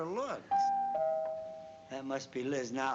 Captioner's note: doorbell ringing